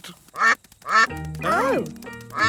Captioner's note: quacking